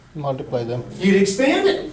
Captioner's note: voiceover